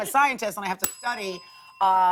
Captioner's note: ding